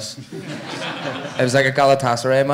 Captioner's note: audience laughing